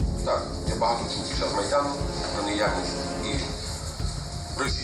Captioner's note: speaking foreign language